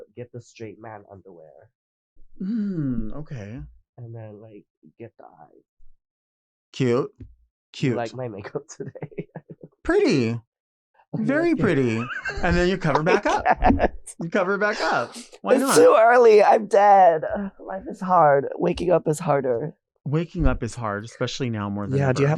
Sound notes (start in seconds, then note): 8.2 chuckling; 11.3 Nymphia laughing; 13.6 Nymphia laughing